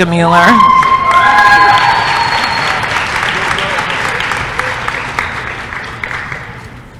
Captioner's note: applause & cheering